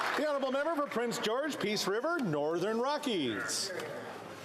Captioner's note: applause